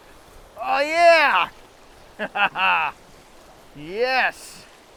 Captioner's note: laughs